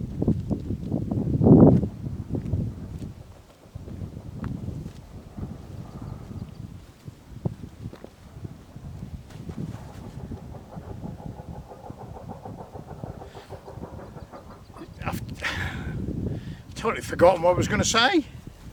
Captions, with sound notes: (Sound of heavy mechanical drill in the background at the quarry) totally forgotten what I was going to say